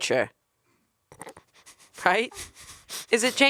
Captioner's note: chuckling